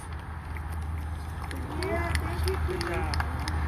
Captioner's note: applause